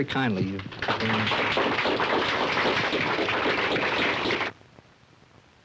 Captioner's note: applause